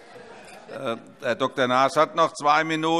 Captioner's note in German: Heiterkeit - : Das ist so ähnlich!